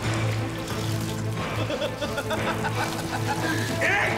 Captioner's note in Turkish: Gülme sesi